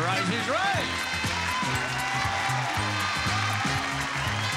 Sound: audience applauds

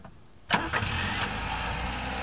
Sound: engine turns on

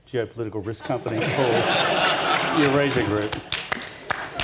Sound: everyone laughs

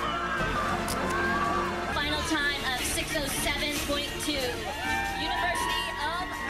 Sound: cheering

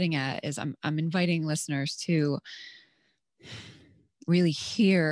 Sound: sighs

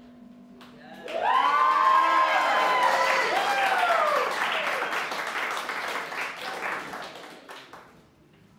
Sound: applause

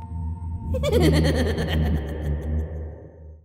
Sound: manic laughing

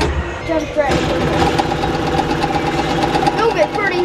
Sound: gunfire

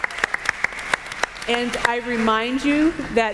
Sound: applause

